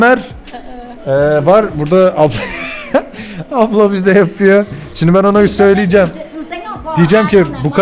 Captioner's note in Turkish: kahkaha